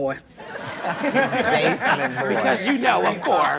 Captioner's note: audience laughs